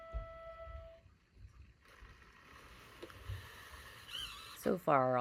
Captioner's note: grinding noise and sound of gears turning